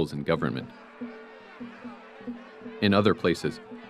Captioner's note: crowd yelling